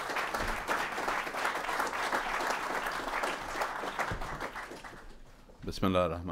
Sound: applause

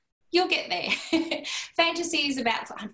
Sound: laughter

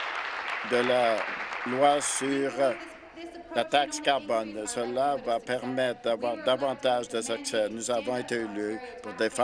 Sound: applause

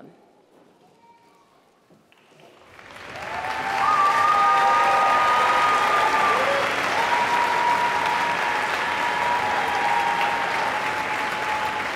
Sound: applause

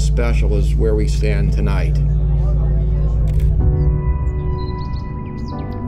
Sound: chatter; birds chirping; gentle music

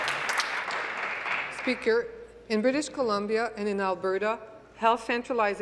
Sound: applause

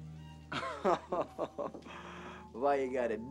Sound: Murray chuckling

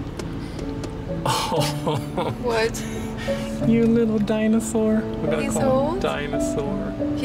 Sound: laughter

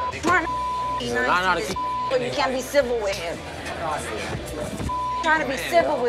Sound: beep

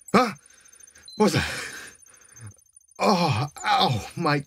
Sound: medical machines beep

